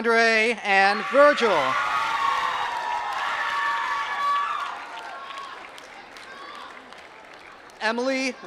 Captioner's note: applause